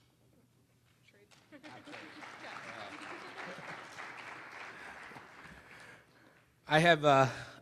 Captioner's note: applause